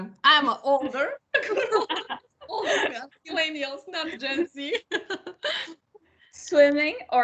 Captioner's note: laugh